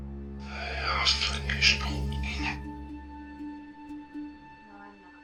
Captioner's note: box mutters